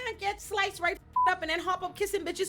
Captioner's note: beep